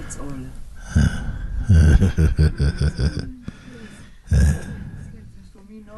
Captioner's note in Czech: Mooji se směje